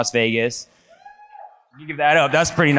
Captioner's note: audience member cheers